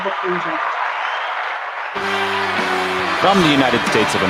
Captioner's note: applause